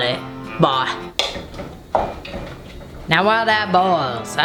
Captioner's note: clanking